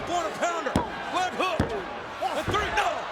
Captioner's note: referee tapping mat